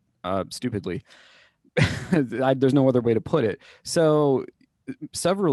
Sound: laughter

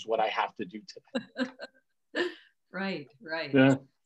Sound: laughing

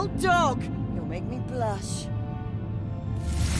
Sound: sarcastically

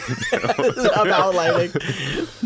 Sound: laughter

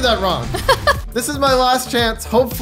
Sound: laughing

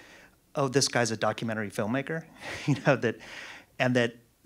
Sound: laughs

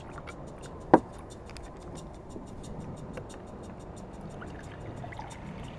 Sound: water burbling; glass thuds; water burbling

